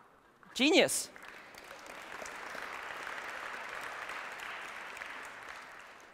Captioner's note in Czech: slabý potlesk